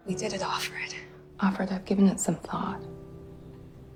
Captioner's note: voiceover